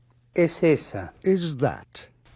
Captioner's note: speaking foreign language